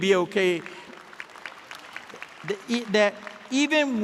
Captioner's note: audience applauding